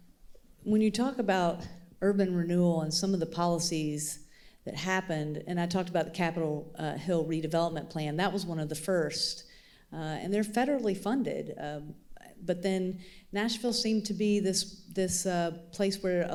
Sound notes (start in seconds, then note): none